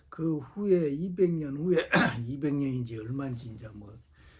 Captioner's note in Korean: 목을 가다듬음